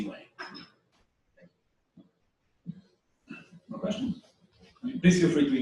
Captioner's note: pause